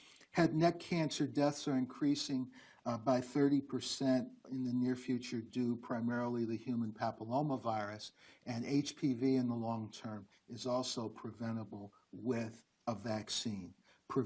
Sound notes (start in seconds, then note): none